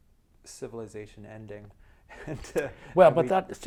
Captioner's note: chuckles